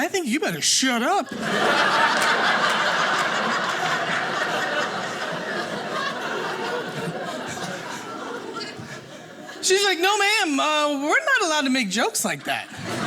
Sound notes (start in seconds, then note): 1.2 audience laughing